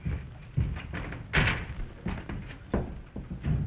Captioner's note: door shuts